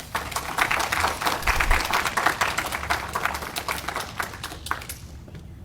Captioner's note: audience applauding